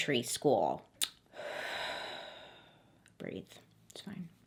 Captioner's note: sighs